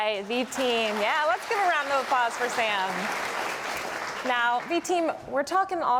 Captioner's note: applause